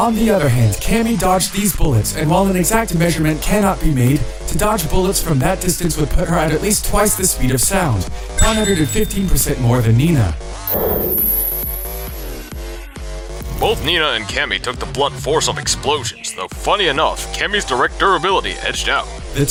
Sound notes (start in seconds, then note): none